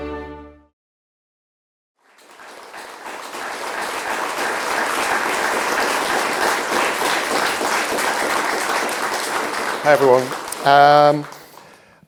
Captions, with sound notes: (people clapping) - Hi everyone.